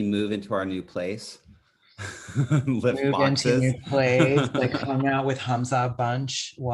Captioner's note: laughs